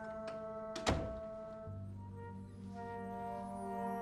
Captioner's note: door closes